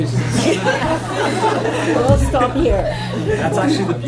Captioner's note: laughter